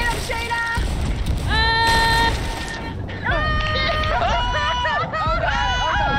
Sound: laugh

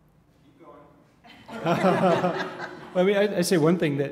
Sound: laugh

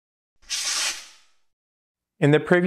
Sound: screen whooshing

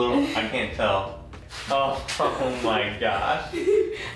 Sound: laughing

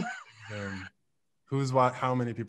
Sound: laughing

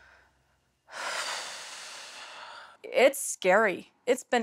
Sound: sighs

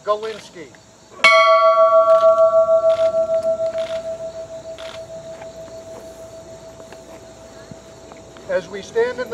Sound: bell ringing

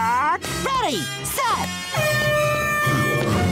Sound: horn blaring

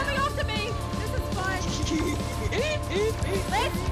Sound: laughs

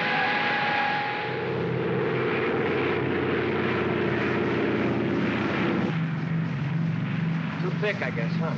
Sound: aircraft rumbles

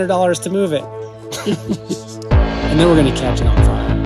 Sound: laughing

